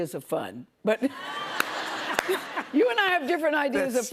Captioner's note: laughter